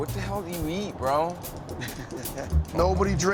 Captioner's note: laughs